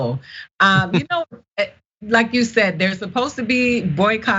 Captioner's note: laugh